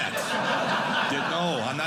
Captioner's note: audience laughing